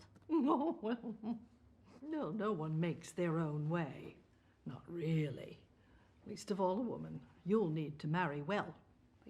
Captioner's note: laughing